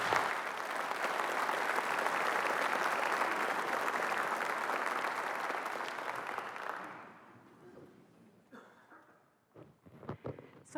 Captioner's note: applause